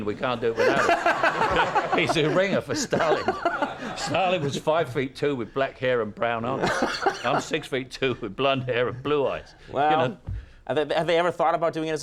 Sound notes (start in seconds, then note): 0.5 laugher